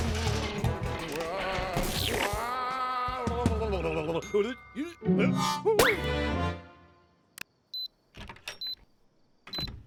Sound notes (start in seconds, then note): 1.6 ghostly moaning; 4.4 grumbles; 8.5 beeping